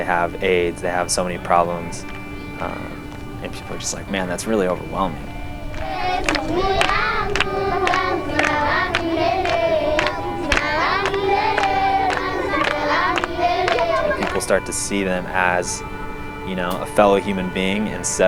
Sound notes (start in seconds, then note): 5.8 speaking in foreign language